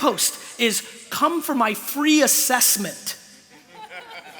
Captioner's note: laughter